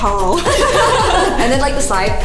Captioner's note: all laugh